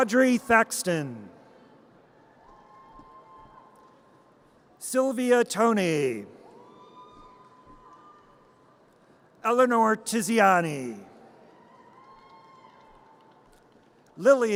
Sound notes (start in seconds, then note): 2.5 audience cheers; 6.5 audience cheers; 11.5 audience cheers